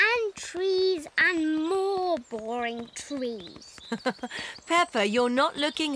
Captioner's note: laughs